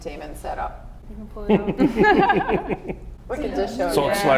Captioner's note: laughs